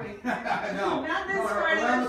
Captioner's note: laughing